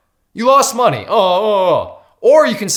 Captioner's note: imitates crying